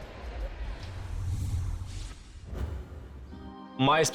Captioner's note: scene whooshing